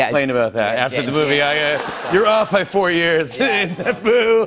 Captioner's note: chuckles